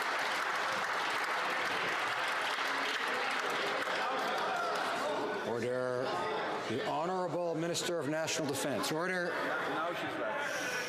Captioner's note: some Applause